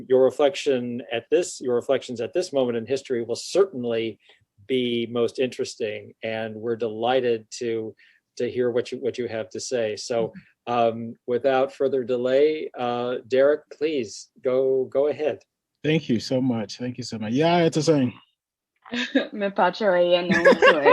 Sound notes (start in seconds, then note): 17.7 speaks foreign language; 19.2 speaks in foreign language